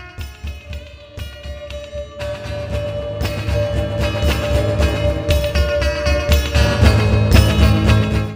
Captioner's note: heavenly chime